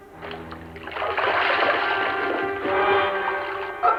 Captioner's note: splash